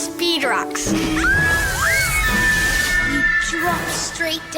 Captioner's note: kids screaming